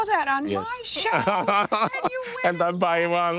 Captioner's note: laughing